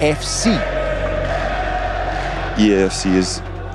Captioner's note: crowd cheering